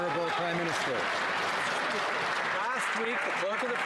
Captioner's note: some Applause